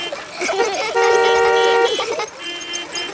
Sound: beeping; laughter

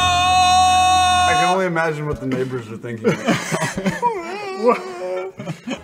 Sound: imitates crying screams

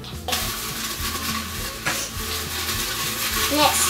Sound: rustling

